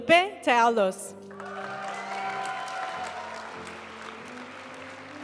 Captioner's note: audience cheering and applauding; graduation music